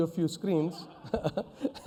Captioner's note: laughs